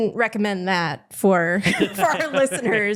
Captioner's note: laughter